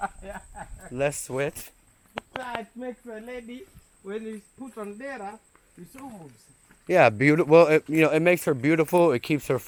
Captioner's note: laughing